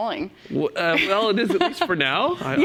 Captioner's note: chuckle